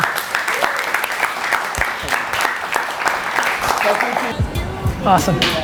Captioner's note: group applause